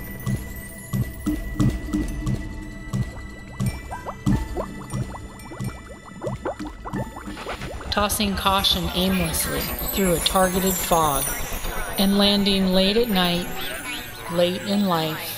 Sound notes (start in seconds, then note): 3.4 trickling water